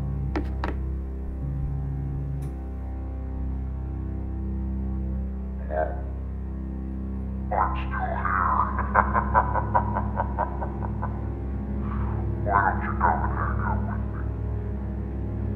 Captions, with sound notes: - [Voice On Phone] Hello. I'm still here. (maniacal laughing) Why don't you come and hang out with me?